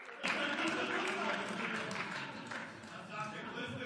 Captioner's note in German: Beifall